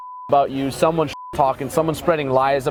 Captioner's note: beep